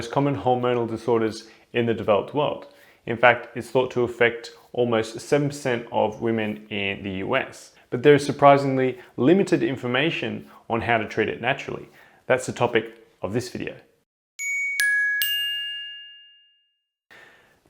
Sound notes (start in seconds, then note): 14.4 bings